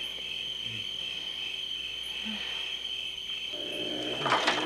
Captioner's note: moans; wheelbarrow rolling